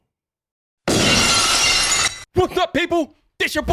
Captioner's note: glass shattering